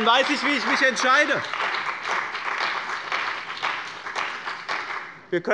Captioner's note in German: Beifall bei dem BÜNDNIS 90/DIE GRÜNEN und der CDU